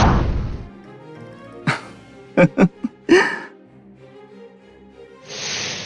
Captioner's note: laugh